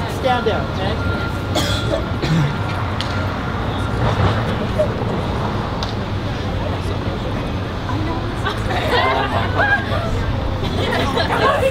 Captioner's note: traffic Sounds